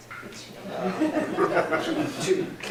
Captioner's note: laughter